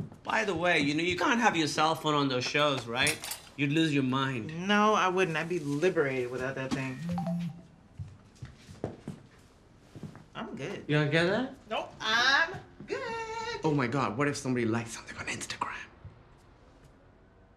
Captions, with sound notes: By the way, you know you can't have your cell phone on those shows, right? You'd lose your mind. No, I wouldn't. I'd be liberated without that thing. [cell phone chimes] -I'm good. -You wanna get that? Nope, I'm good. Oh, my God, what if somebody liked something on Instagram?